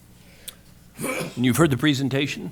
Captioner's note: sneezes